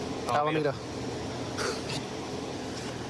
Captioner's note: laughs